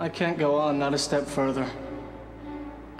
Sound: none

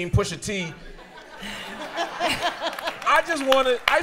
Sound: laughter

